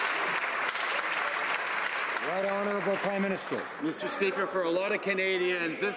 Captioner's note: some Applause